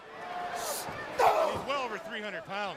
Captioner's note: crowd chatter